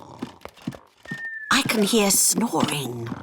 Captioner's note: snoring